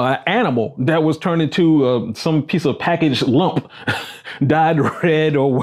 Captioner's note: laughs